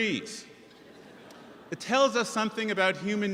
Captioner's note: audience chuckles